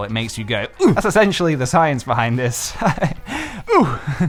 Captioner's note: laughs